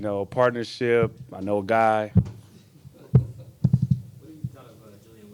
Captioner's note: microphone thudding